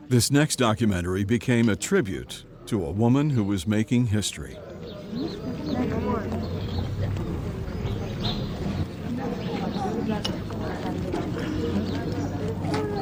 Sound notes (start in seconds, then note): 5.2 bird chirping; 5.2 people chattering